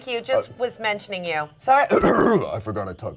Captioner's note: clears throat